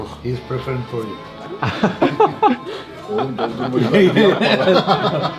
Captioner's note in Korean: 일동 웃음